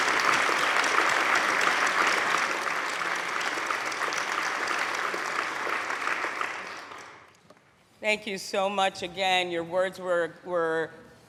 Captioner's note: applause